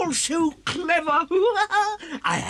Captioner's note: laughs